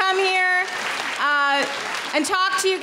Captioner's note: clapping